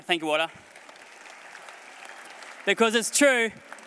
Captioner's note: applause